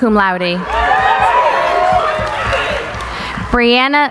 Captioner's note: cheering